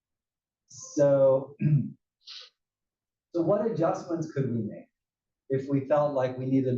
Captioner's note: cough